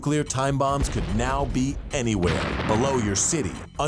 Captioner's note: bomb exploding